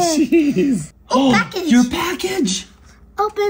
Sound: gasps

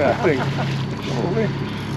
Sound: reel cranking; fish splashing

